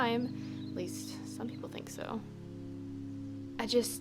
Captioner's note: under breath